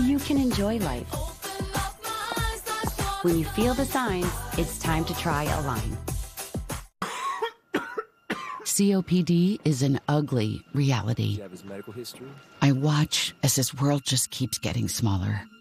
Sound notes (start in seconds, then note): 7.0 coughing